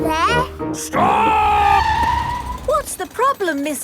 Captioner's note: tires screeching